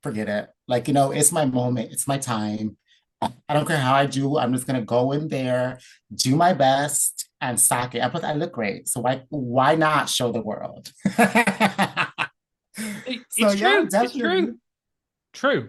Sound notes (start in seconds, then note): 11.1 laughs